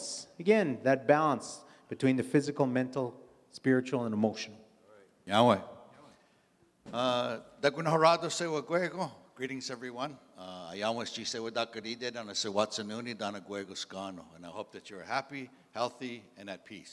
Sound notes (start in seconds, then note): 4.8 in Indigenous language; 8.8 in English; 10.4 in Indigenous language; 14.1 in English